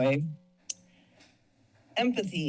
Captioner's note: pause